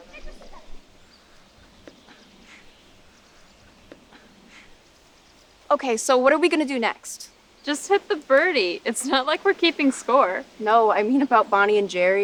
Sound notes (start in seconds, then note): 2.2 campers faintly shouting